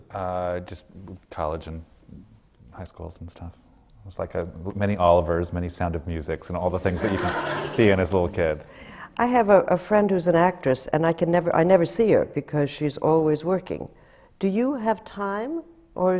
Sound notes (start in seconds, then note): 6.8 laughter